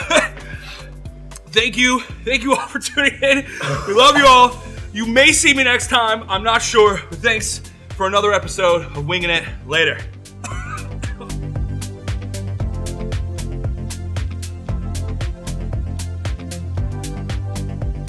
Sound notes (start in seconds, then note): 0.0 coughs; 10.4 coughs; 12.2 upbeat electronic music